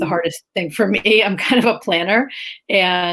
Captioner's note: laughs